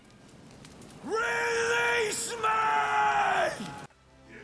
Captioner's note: sceraming